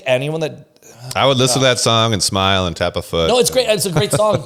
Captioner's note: laughs